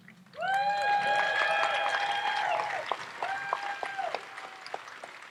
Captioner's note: audience applauds and cheers